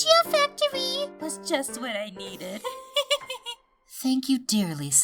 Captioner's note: giggles